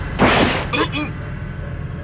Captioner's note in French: Tousse